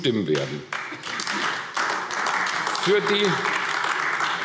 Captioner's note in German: Beifall AfD